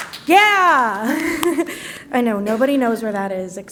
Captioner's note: laughs